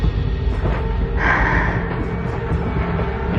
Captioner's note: Cindydy e exhalales